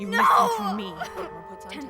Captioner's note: crying